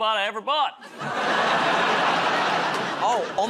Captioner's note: laughter